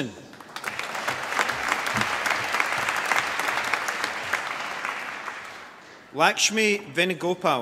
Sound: applause

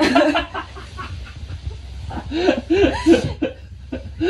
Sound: kept laughing

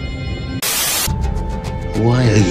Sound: Static

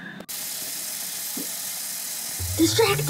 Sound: water pouring

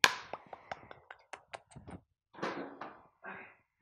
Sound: smacks lips

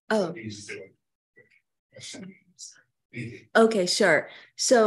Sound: speaking faintly

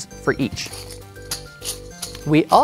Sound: game pieces rattling

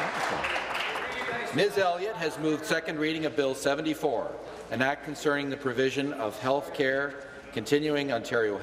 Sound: applause

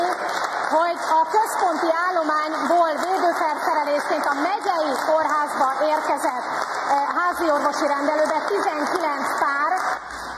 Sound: applause; applause

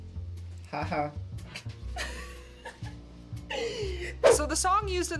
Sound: laughs

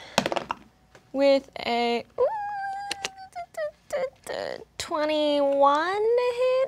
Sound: squeals

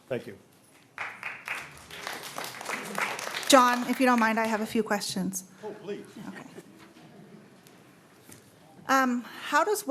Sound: applause

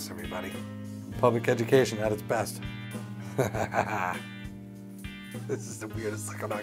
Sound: laughs

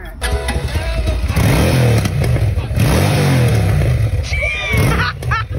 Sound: motorcycle engine roaring

